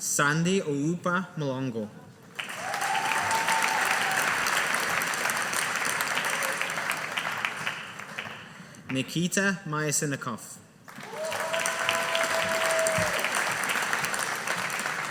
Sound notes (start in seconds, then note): 2.3 audience applauding; 10.9 audience applauding